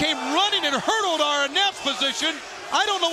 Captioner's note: crowd chatter